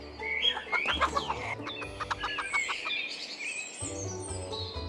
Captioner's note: chickens squabble